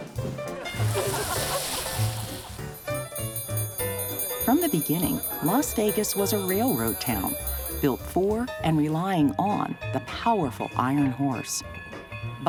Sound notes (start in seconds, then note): 1.8 dinner bell ringing